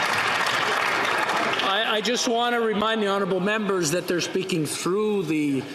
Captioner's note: some Applause